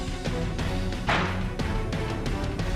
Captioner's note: door slams